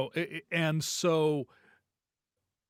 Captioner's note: none